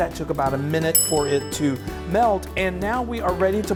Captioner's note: bell dings